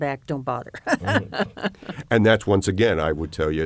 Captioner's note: laughter